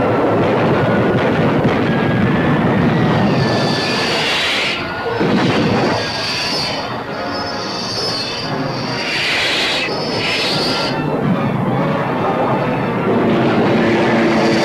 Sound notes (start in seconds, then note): 0.0 explosion booming; 0.2 weapons firing; 2.9 missile whooshing; 4.8 explosion booming; 8.4 missiles whooshing